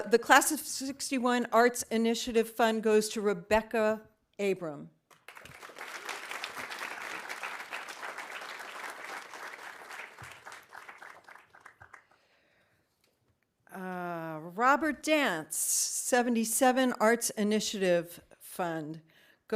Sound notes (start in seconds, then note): 5.1 audience applauding